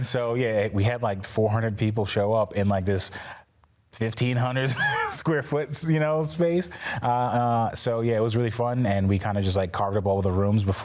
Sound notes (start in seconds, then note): 4.7 laughs